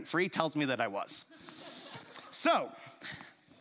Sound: chuckles

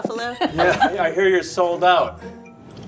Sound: all laugh

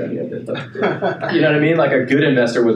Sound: laughing

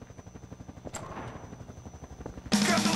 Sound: helicopter Blades Spin; heavy Metal Door Opens

